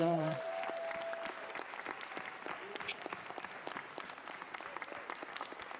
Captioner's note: cheering